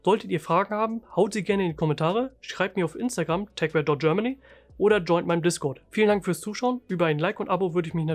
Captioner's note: german